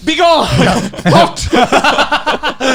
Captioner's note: laughing